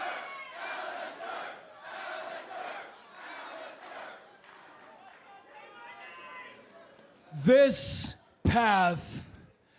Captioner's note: fans chanting